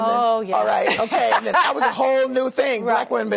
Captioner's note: laughter